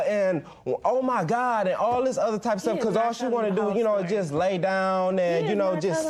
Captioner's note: none